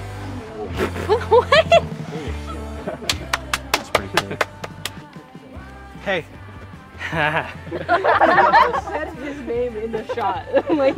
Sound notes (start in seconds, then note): 7.0 all laughing